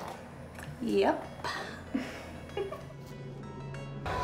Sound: chuckles

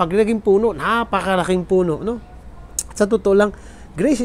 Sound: tsk

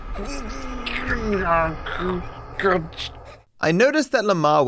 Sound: speaks gibberish

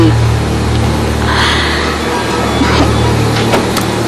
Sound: exhales

